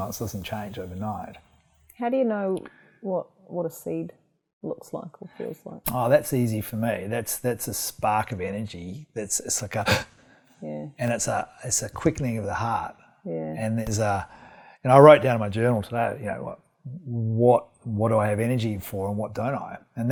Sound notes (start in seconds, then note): 9.9 gasp